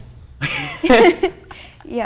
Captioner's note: both chuckle